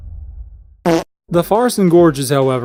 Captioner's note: fart